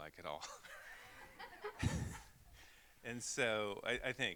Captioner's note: all laughing